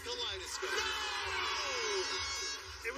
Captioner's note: air horn blares